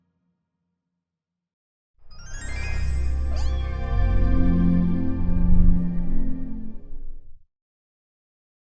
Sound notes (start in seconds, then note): 3.1 cat meowing